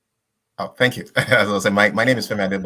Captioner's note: laughs